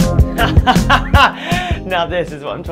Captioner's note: laughing